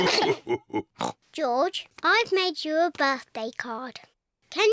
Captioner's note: all laugh; oinks